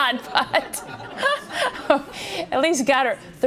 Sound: laughing

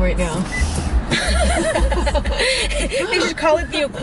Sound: laughs

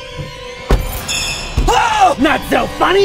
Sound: car door slams; screams

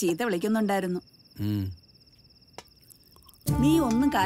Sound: night Ambient Sound

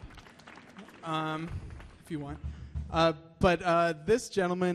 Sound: applause

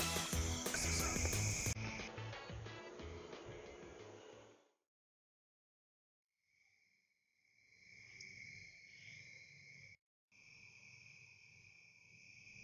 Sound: whispering

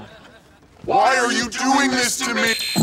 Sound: robotic voice

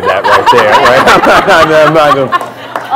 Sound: laughter

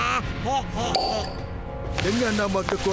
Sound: opening bottle of water

